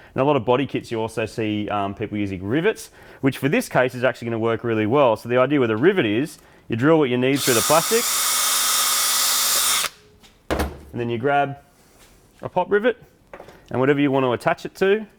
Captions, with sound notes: Now, on a lot of body kits, you also see, um, people using rivets: which, for this case, is actually going work really well. So, the idea with a rivet is: -you drill what you need through the plastic, -(battery-powered drill) (tool thuds) and then, you grab a pop-rivet, and, whatever you want to attach it to,